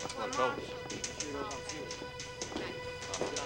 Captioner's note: dramatic music; people chattering in distance; typewriter keys clacking in office